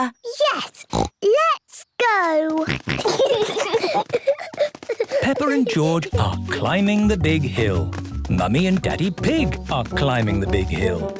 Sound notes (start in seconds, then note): 0.8 snorts; 2.6 snorting, giggling